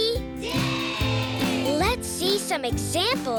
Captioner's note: cheering yes